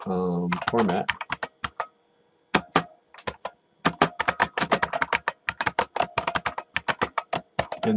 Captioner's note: typing